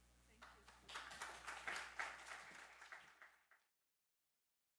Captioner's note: audience applauding